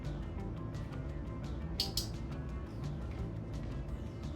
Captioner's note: click